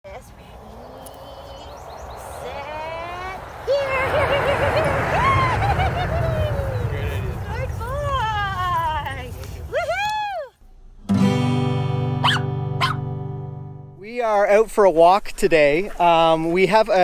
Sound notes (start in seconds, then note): 2.2 exclaiming; 3.9 giggling; 12.2 dog barks